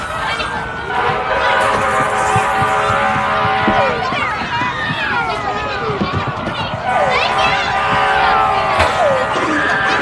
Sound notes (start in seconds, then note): 1.6 sirens blaring